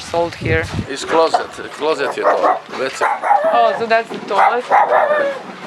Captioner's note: speaks in foreign language